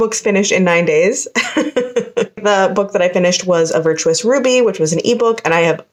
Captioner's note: laughter because I know I'm behind